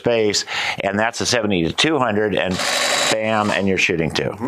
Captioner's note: mechanical shutter